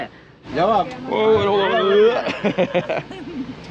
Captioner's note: people speaking in foreign language; laughing